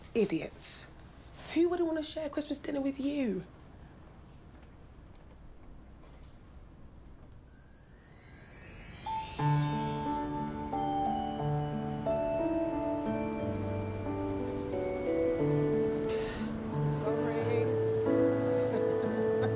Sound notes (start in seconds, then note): 7.5 bells chiming; 18.0 laughs